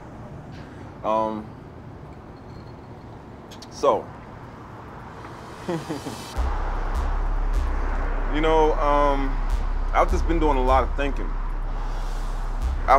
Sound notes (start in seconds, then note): 5.6 chuckles